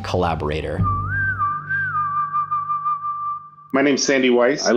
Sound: whistling sound

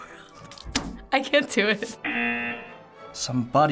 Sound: buzzer

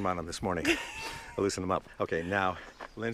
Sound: Lindsey laughs

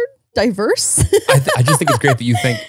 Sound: laughs

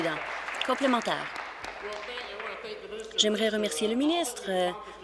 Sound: applause

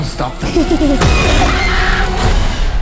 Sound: giggling; scream

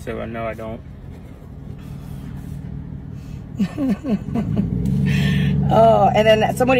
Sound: laugh

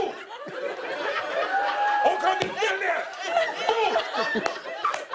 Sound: shouting; laughter

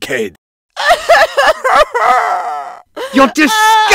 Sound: heavy Sobbing

